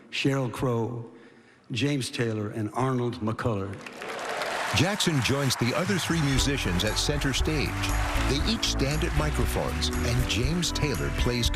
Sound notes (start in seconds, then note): 3.8 cheering and applause